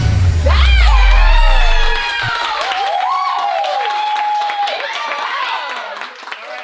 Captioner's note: cheering